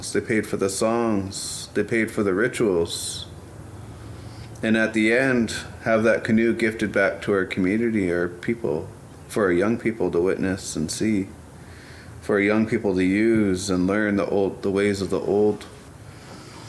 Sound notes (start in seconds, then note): none